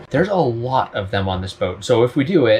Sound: none

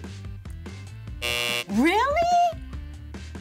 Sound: buzzer buzzing

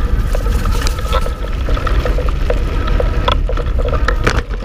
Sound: motor whirring

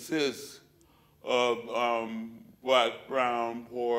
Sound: none

